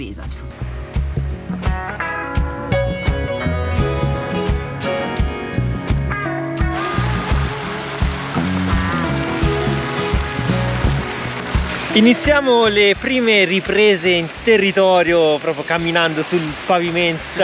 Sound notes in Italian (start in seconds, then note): 2.4 Applauso